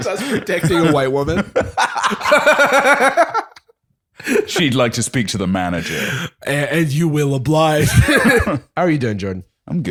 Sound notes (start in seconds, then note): 0.1 laughter; 7.8 laughs